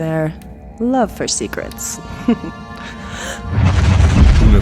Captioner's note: chuckle, then gasp as magic rips into her